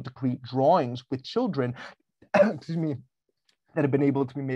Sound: coughs

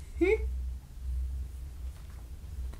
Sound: laughs

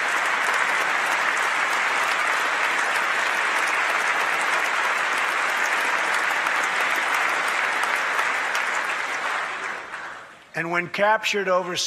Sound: applause

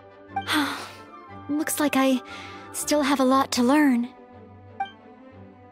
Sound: sigh

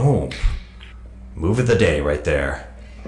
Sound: hands slapping

